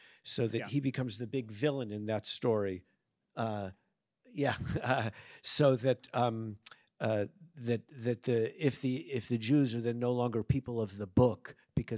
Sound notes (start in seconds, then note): 0.0 speaks in Arabic; 4.5 laughs